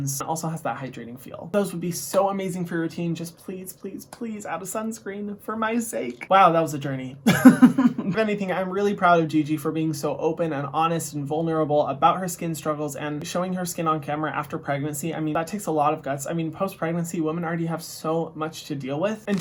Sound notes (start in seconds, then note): 7.2 laughs